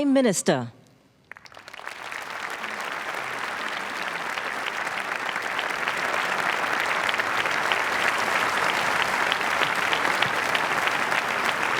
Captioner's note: applause